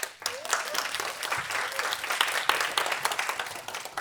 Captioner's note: applause